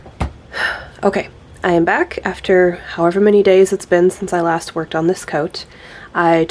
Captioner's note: sigh